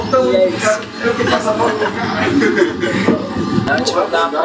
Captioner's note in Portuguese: risos